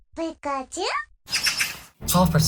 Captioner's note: pikachu_noises; magpie_tweeting